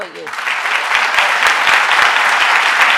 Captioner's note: applause